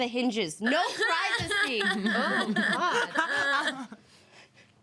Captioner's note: woman sobbing